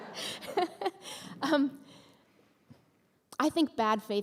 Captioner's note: laughter from audience